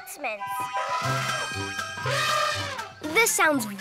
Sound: elephant trumpeting

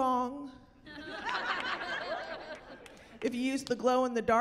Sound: laughter

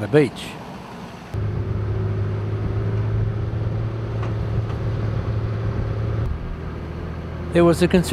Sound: vehicle sounds

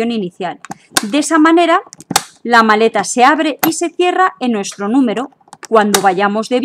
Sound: lock and unlock

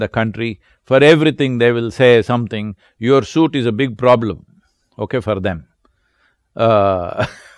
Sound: laughs

